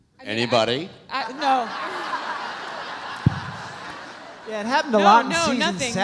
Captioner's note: audience laughs